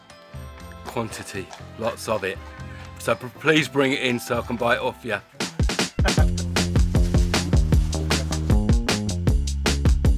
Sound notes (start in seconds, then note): 6.0 laughing; 7.5 bright music